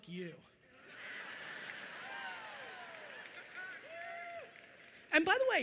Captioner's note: audience laughing and cheering